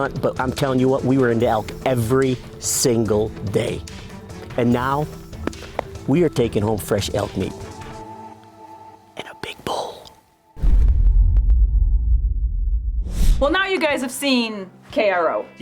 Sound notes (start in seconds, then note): 10.6 logo thuds